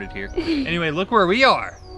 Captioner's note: laughs